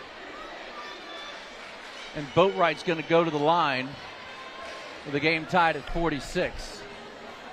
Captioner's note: applause